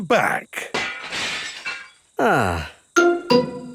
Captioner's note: glass shatters